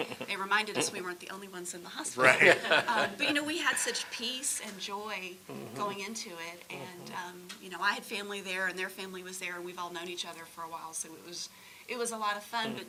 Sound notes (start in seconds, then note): 2.2 audience laughing